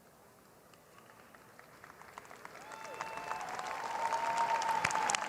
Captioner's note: cheers and applause